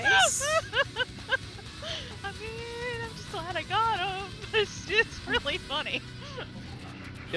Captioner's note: laughs